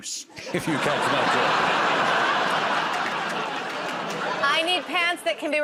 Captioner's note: laughter